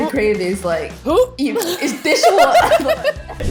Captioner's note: gags; both laugh